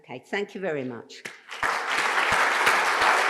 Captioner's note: applause